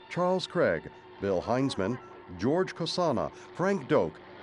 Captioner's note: helicopter passing